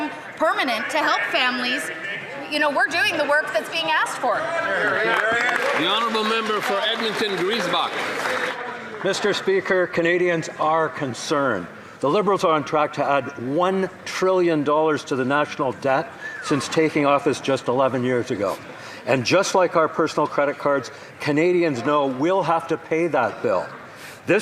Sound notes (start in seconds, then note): 9.7 some Applause